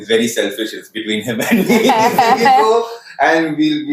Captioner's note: laughs